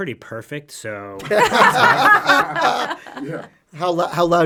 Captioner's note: all laughing